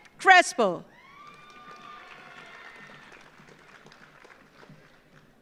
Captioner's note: audience applauds